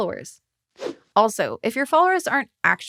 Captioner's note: logo whooshing